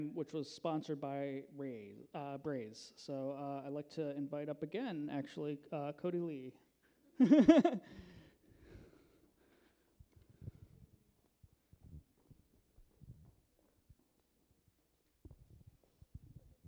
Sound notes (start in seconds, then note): 7.2 laughs